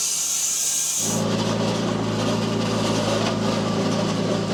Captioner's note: loader rumbles